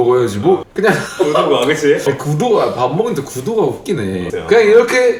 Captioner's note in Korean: 웃음